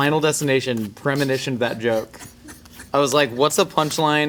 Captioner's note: laughing